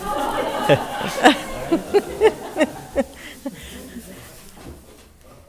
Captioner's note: audience laughing; laughs